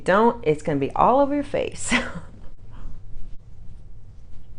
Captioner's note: chuckles